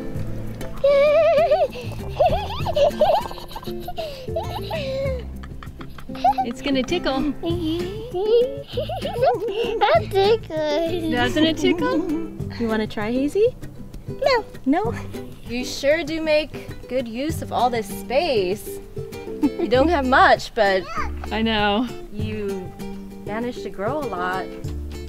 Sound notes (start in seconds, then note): 3.4 mom giggles; 7.4 more giggling